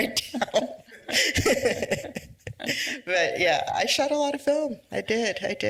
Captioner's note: laughs